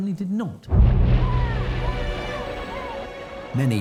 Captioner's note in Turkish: kalabalık tezahürat